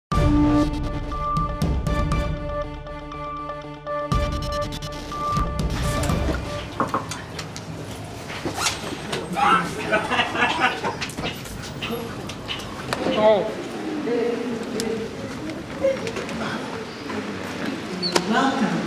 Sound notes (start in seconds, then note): 6.8 knocks table; 8.2 unzips bag; 9.4 man Laughs; 13.1 crowd murmuring